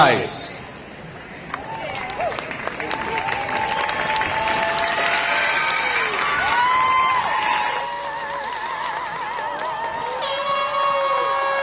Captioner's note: applause and cheering